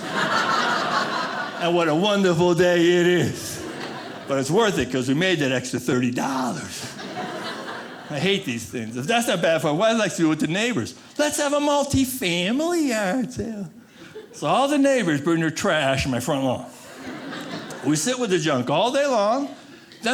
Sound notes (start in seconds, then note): 0.0 audience laughing; 16.7 audience laughing